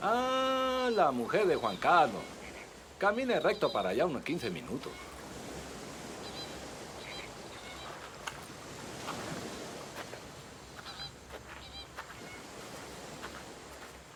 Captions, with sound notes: Ah, Juan Carlos's wife! Walk straight for about fifteen minutes. [ocean waves rolling in]